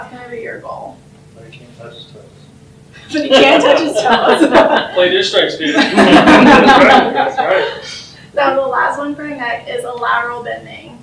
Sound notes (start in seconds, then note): 5.6 laughing; 7.3 talking from audience and laughter